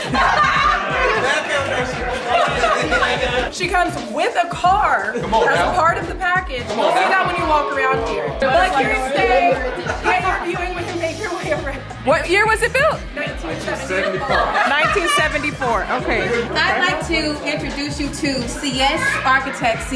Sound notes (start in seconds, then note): 0.0 guests laugh; 0.1 guests chatters; 9.3 guests chuckle; 15.5 guests laugh